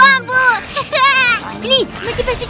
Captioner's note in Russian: смеется